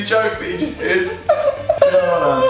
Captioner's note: laughing